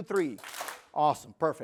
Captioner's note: clap